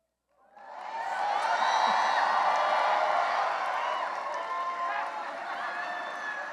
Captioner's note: cheering and applause